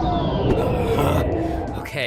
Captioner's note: gagging